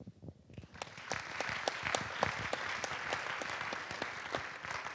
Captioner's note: audience applauding